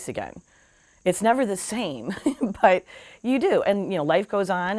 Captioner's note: chuckles